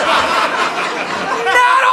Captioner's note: audience laughing